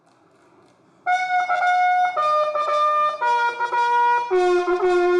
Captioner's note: horn trumpeting